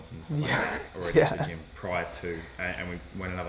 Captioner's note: laughs